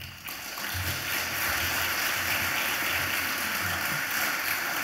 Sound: audience applauds

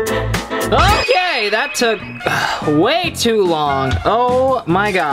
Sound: sighs

